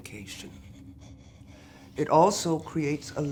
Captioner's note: labored breathing